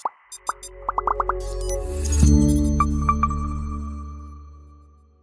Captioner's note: musical electronic beeping